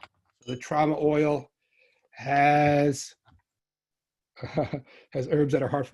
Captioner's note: chuckles